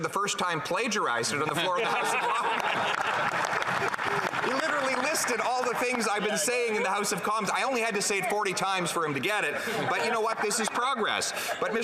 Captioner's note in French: voix de l'interprète